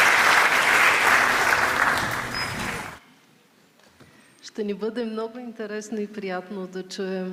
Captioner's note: applause